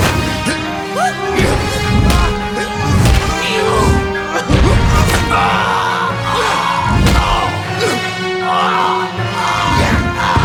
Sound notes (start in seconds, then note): 3.3 Mindy's dad growling